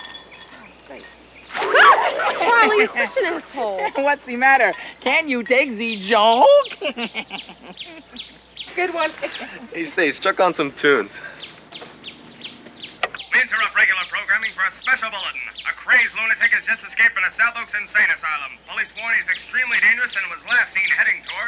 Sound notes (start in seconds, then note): 0.0 rattle; 1.6 boing; 4.7 bad Spanish accent; 6.7 irritating laugh; 12.5 click; 13.5 radio